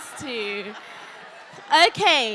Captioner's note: audience members calling out